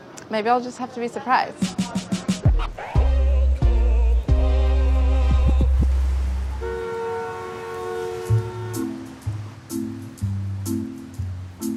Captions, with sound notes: Maybe I'll just have to be surprised. [horn honking] [playful music]